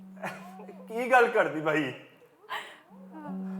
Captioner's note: in Punjabi